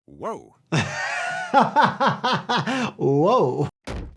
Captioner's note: laughing